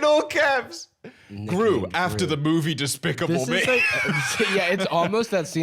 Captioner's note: laughs